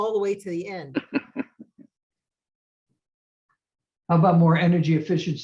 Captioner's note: laughs